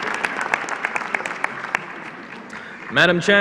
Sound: applause

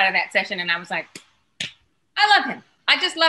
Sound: clapping

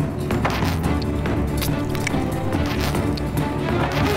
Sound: wet slicing; sauce squeezes

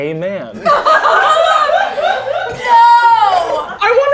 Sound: girls laughing

